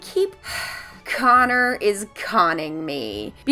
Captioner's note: sighing